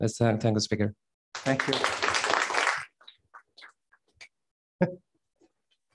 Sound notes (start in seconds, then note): 1.3 applause